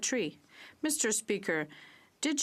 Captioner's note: speaking French